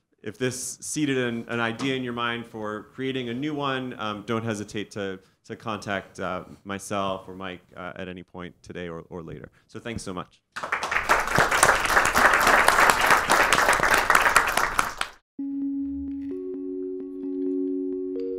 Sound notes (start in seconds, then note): 10.6 all applauding; 15.4 bright music